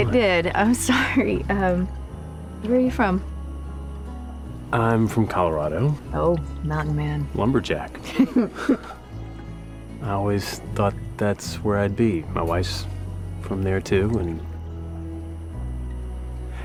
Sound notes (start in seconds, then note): 8.0 chuckles